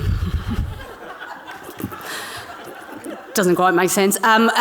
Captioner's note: audience laughing